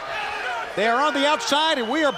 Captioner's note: crowd cheering